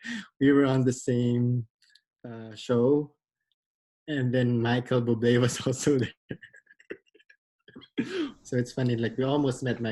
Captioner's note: laughs